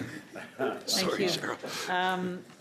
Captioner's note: laughter